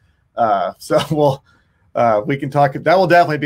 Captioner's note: laughing